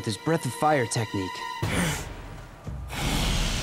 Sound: groaning

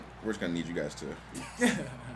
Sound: laugh

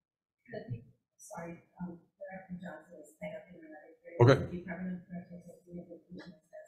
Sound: woman's Voice

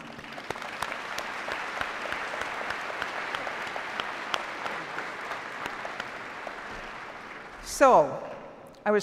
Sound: applause

